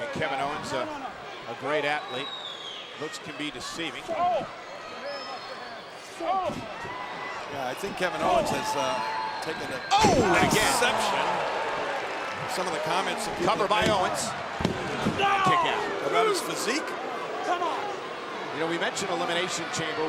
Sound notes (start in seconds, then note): 4.7 audience chattering; 4.7 wrestlers grunting